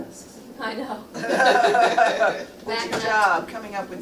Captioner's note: all laughing